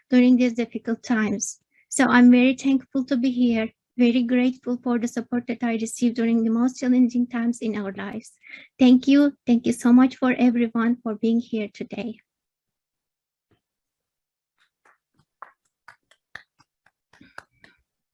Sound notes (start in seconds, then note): 15.8 claps